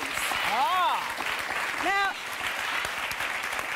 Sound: audience applause

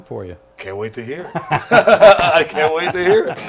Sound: laughs

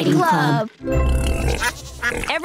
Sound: quacking, oinking

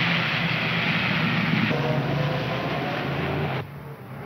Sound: engines rumbling

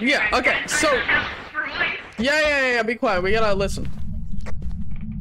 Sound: over Radio

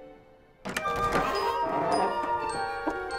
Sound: door Opening

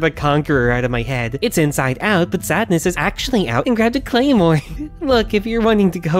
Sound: giggles

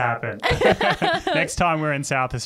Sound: all laughs

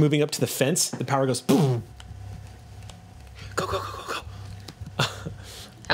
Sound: buzzes

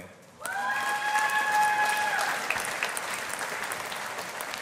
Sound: audience applauding

